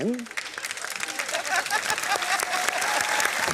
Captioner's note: applause